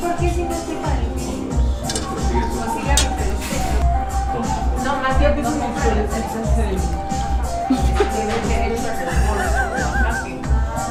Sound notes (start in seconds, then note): 7.6 laughing